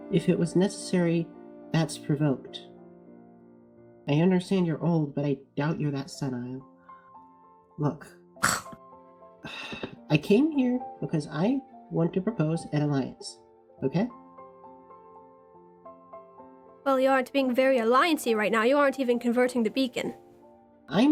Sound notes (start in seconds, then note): 8.4 ROSE scoffs; 9.4 sighs